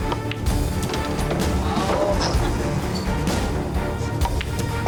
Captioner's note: intense music; pool balls knocking; intense music continues